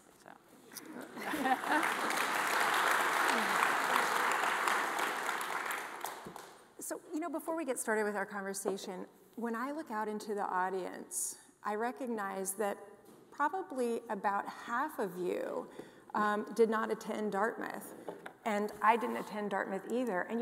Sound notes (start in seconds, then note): 1.2 audience applauding